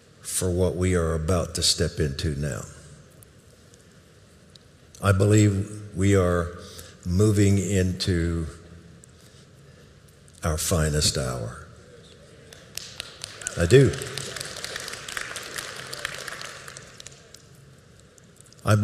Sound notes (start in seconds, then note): 12.4 audience applauding